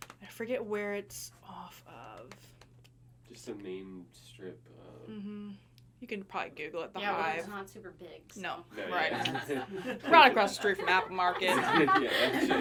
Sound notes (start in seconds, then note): 8.9 people laughing; 10.7 everyone laughing